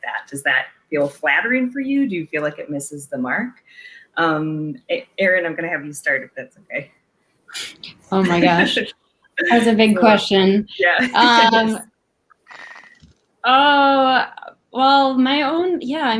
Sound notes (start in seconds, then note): 8.1 laughs